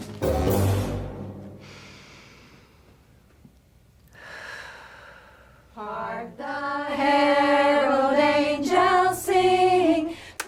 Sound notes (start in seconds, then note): 0.0 quirky music; 1.6 inhales, then exhales